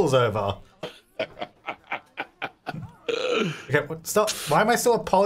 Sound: laughing

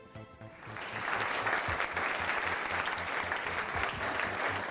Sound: applause

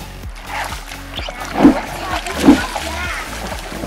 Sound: splash

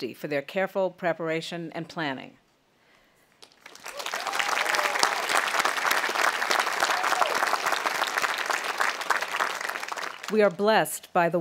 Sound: audience applauding and cheering

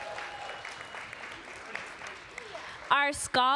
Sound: applause

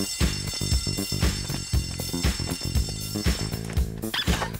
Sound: school bell ringing

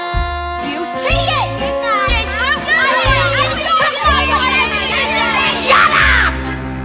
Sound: arguing in the background

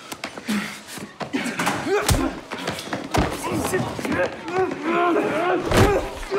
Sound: hard slapping; grunting

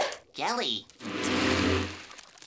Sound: buzzing

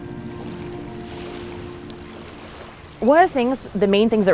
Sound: water lapping

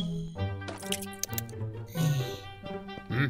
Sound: soup sloshing; slurping; funky music

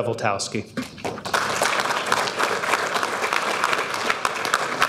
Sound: audience applauding

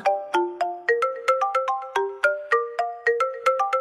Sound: phone rings

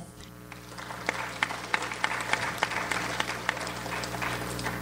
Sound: audience applauds

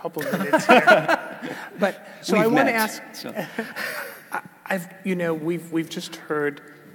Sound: laugh

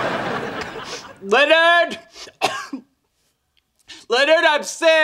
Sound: audience laughing; coughs

